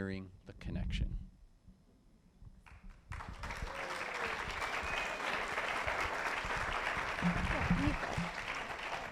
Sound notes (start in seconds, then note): 7.0 applause